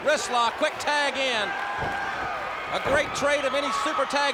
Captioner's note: crowd chatter